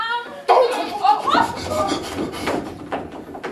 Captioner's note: panicked noises from the scientists